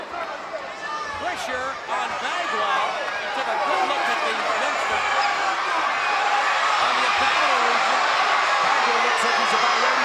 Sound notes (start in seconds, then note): 5.6 crowd cheering